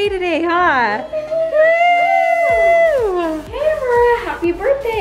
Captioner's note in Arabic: تهتف الفتيات